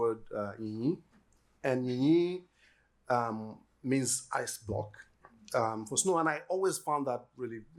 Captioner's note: yoruba